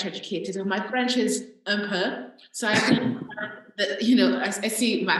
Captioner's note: speaking french